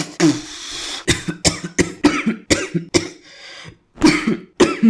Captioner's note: coughing